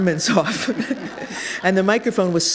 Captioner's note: laughter